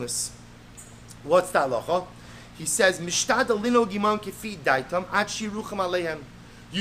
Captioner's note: Hebrew